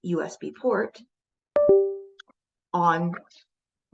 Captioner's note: computer chimes